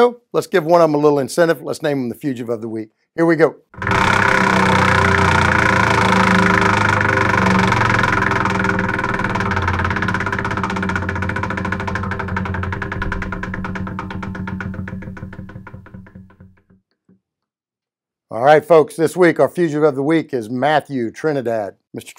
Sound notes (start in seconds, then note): 4.0 wheel rattles